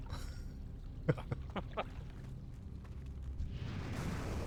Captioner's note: laughing